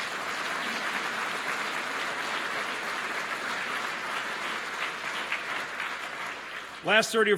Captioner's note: applause